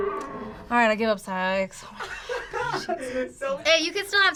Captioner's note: React laughs